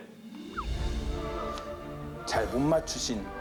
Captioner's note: hesitates